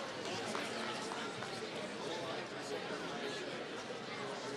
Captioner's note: applause